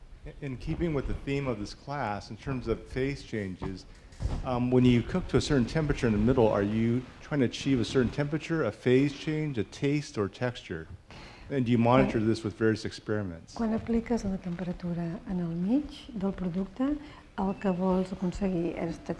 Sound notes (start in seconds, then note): 14.3 speaking spanish